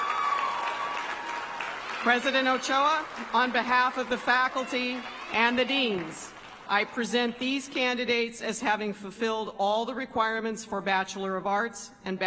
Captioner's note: applause